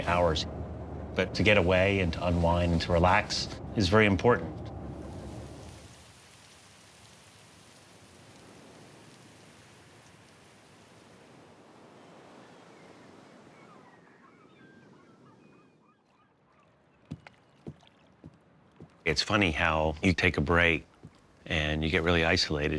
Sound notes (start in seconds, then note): 4.7 wind whooshing; 13.4 gulls calling